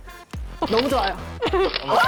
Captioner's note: encouraging voice